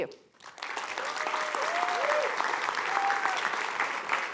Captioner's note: applause